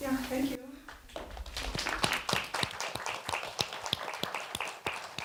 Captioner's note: applause